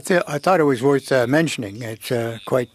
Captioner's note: speaking FRENCH